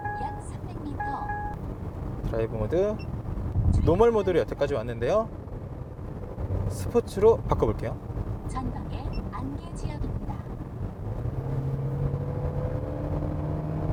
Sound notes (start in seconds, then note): 0.9 GPS sound; 8.4 GPS alarm ringing